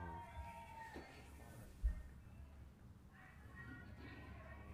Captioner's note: protestors shouting